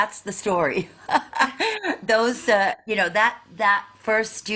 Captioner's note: laughing